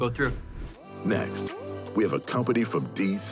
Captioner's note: air whooshing